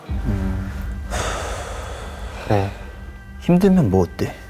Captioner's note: A sigh that slips out as he thinks of how tough it was